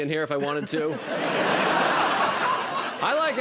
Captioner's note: laughter